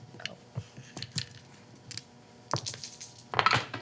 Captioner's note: dice rattling